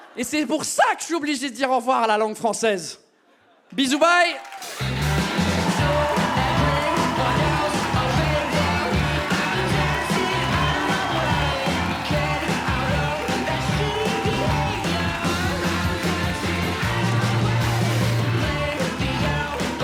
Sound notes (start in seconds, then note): 4.8 rock music; 8.1 audience cheers, claps and whistles